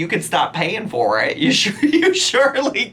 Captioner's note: laughs